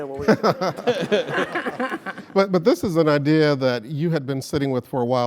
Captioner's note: laugh